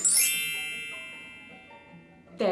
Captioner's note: fairy dust sfx